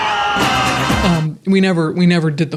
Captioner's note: people cheering